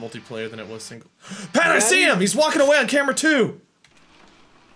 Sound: gasps

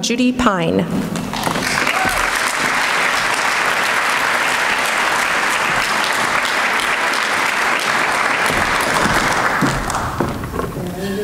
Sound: applause

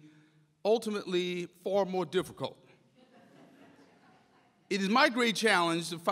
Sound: audience chuckles

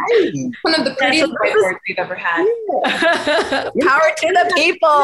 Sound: chuckles softly; group chattering; chuckles softly

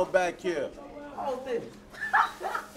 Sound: laughs

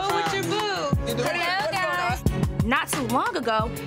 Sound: girls arguing

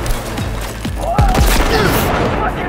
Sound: gun firing

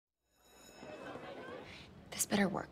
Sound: bell rings

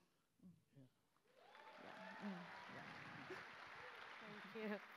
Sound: applause

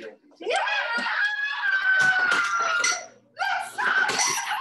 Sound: cheers

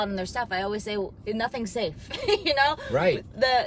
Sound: laughs

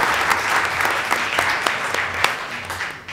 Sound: applause

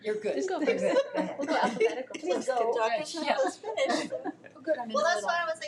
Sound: board members chattering

